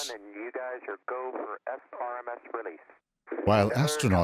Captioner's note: space radio talk